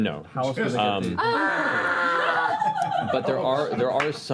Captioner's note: horrified yelling